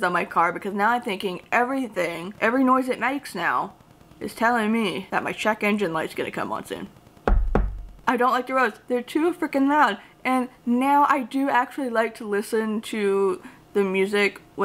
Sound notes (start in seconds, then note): 7.2 knocks on wood